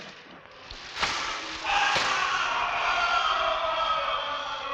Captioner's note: distant screams